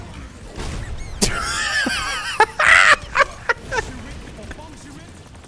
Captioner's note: uncontrollable laughter